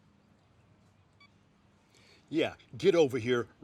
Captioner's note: phone beep